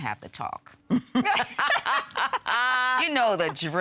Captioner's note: laughing